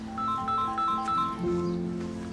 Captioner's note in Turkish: Telefon çalıyor